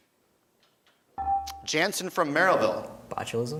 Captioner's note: beeping